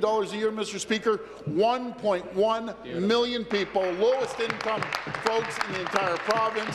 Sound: applause

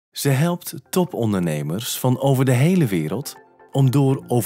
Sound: voice-over

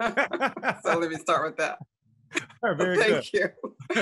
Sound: both laughing

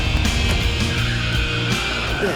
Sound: tires screech

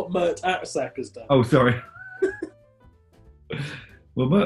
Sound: laughing

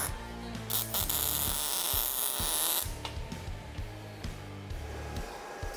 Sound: machine hissing continues

